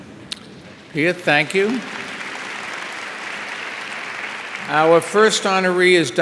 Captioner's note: audience applauding